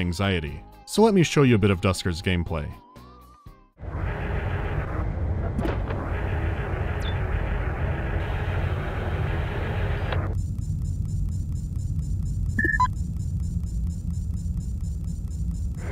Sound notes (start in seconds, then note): 3.8 low growling of drone's wheels and quiet chirping of sensors; 10.3 subdued movement sound cues